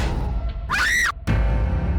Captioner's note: dramatic musical score; Abby screams; dramatic music